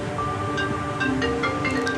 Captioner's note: ringtone